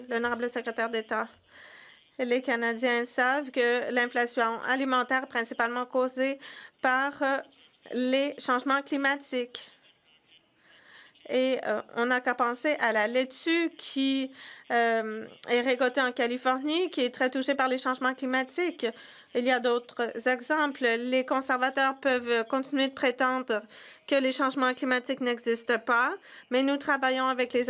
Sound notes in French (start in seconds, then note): 7.9 voix de l'interprète